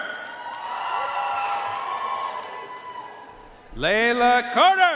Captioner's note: audience cheering and applauding